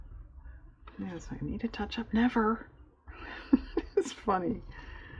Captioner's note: laughs